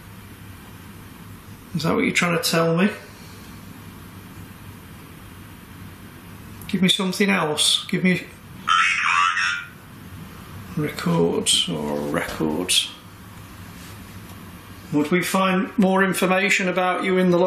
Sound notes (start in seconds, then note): 8.7 device speaks